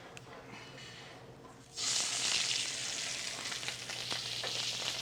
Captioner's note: sizzling